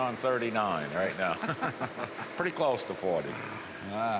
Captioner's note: both laugh